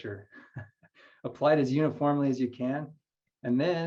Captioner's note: chuckles